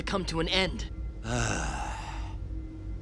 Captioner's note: sighing